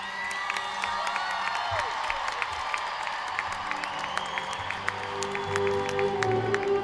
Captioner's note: cheers and applause